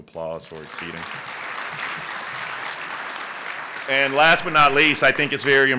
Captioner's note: applause